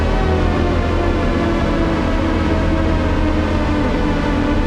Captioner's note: pitch descends